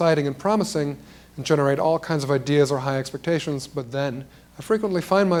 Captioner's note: none